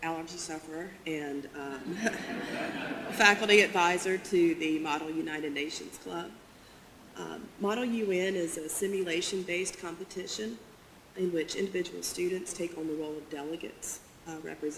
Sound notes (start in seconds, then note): 1.9 audience laughter